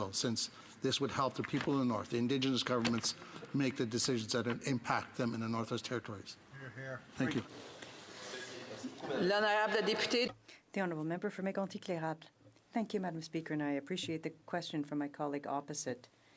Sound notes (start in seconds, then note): 13.3 speaking french